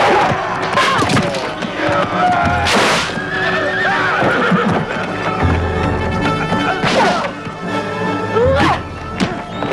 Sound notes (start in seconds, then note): 3.1 man groaning; 3.2 horse neighing